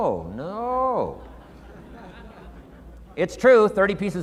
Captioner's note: audience chuckling